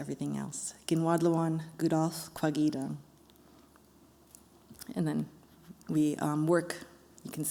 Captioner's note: non-english speech